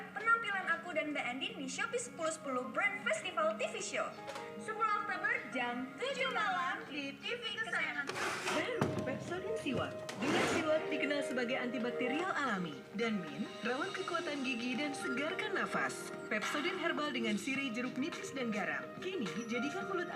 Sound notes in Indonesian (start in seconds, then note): 0.2 suara tv